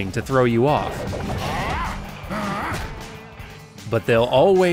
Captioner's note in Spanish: Bald Bull gruñe